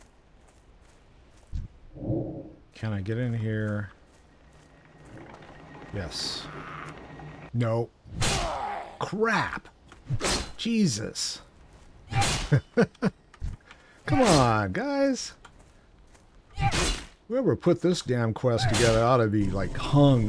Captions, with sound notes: Can I get in here? Yes. No. Crap. Jesus. (laughs) Come on, guys. Whoever put this damn quest together ought to be like hung.